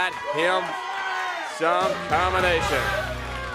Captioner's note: crowd cheering